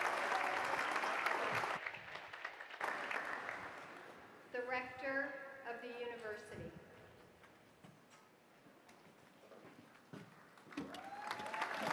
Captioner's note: applause